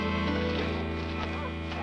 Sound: dogs barking

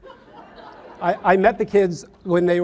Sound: audience laughs

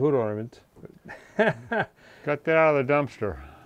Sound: chuckles

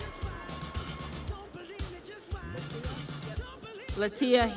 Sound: crowd cheering

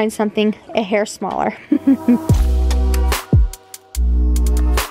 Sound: chuckles

